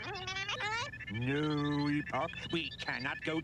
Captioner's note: squeaking